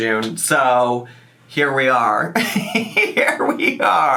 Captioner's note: laughs